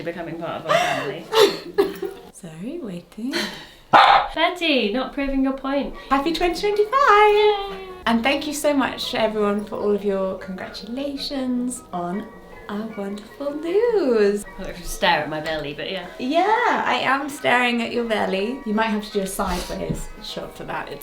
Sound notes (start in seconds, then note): 0.6 laughs; 3.9 dog barks